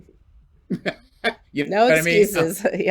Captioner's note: chuckles